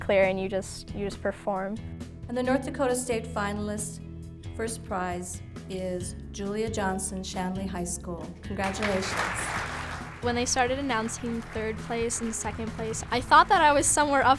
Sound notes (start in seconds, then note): 8.6 applause